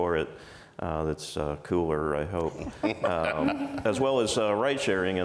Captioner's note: panel laughs